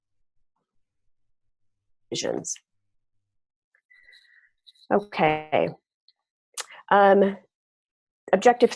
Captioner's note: audio cut out